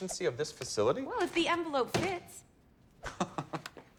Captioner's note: oliver chuckles